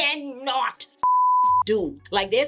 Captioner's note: beep